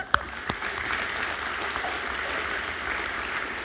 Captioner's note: crowd clapping